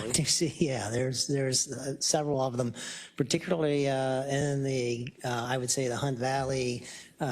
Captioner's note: laugh